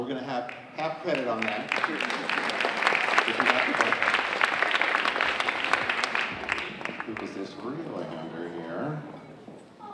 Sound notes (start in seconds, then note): 1.0 audience applauding